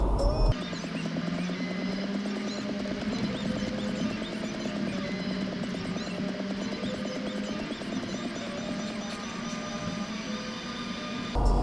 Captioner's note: sound sped up sounds